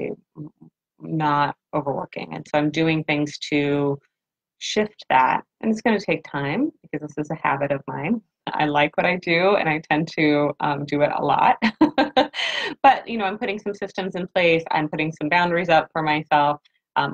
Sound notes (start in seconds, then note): 11.7 laughs